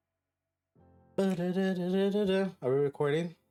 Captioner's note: humming